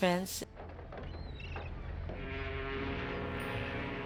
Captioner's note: seagulls, ship's horn